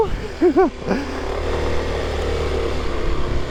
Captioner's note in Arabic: يضحك